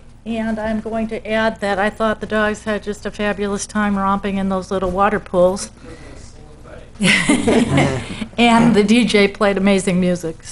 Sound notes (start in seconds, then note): 7.0 laughter